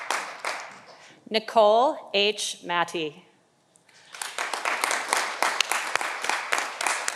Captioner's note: audience applauding